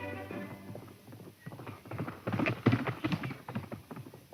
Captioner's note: horse galloping